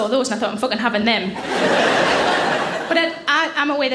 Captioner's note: audience laughing